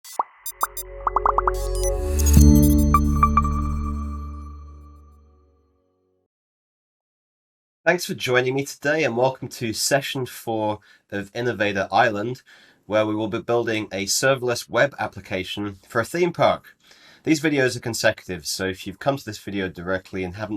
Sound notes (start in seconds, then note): 0.0 soft beeps; 0.1 ambient music; 1.0 bubbles popping; 3.1 soft beeps